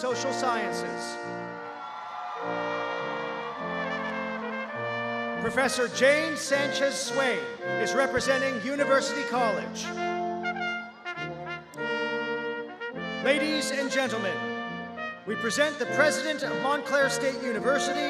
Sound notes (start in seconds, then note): 4.1 cheers